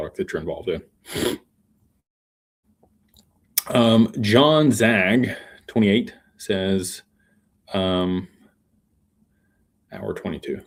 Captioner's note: snorts